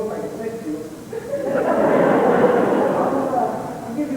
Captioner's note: laughter